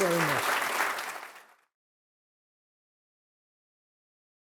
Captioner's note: applause